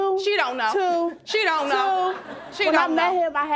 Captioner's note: audience laughing